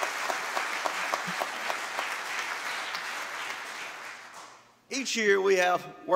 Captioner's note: applause